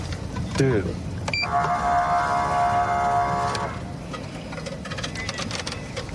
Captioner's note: horn blaring